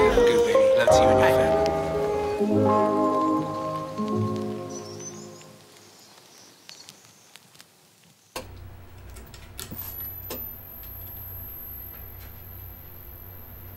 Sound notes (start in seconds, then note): 0.0 soft music; 4.9 static buzzing